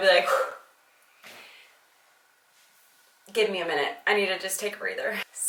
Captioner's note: heavy breathing